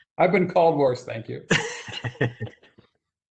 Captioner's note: laughter